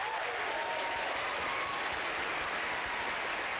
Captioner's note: applause